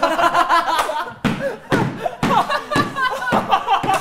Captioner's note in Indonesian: Ledakan tawa